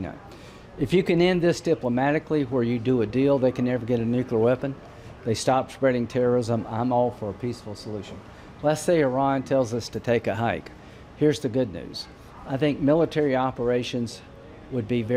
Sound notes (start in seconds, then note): none